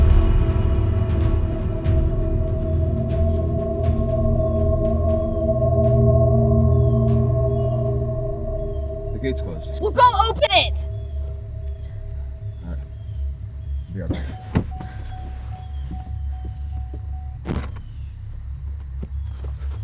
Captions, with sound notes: (troubling music) - The gate's closed. - Well, go open it! - All right. I'll be right back. (door alert beeping)